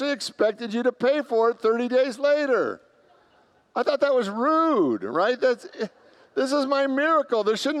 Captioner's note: congregants laugh